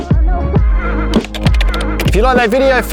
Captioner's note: muffled hip hop music; keyboard clicking